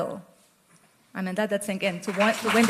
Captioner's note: applause